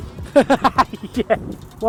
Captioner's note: laughing